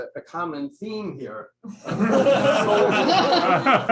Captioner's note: laughter